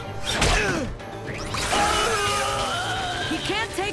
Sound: grunting

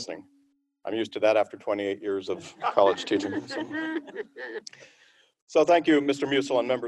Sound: laughter

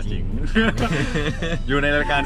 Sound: both laughing

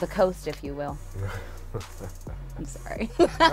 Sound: laughs

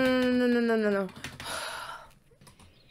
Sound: pained sigh

